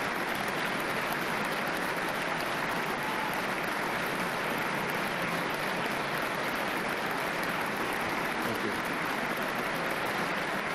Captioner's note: applause